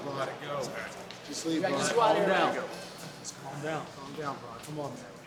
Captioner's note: overlapping chatter